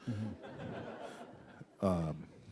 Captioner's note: laughter